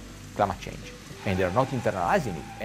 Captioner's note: tires screeching